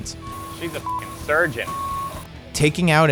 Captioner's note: beep